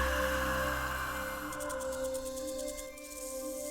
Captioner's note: whisper call